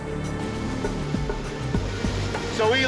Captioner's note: water roaring